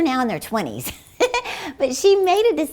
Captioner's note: laughing